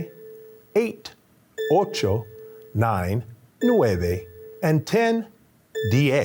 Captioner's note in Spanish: habla español